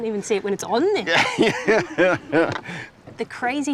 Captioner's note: laughs